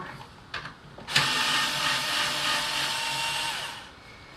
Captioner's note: whirrr with off-axis wobble